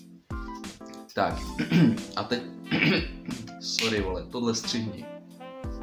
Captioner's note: old man choking sounds